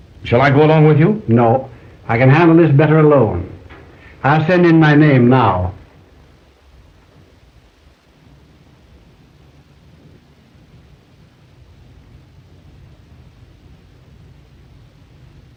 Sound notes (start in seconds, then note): 10.7 phone ringing